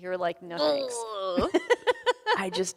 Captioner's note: groans; laughs